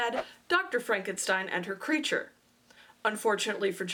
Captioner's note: swoosh